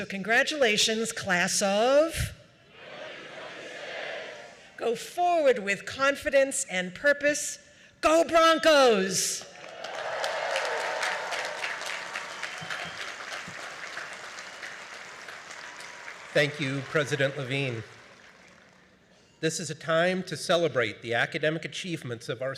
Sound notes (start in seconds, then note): 11.9 cheering; 13.4 applause